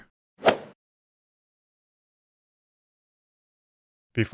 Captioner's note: golf ball hit sound